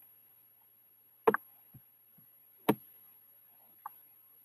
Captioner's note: tapping